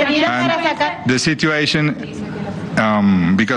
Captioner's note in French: plusieurs voix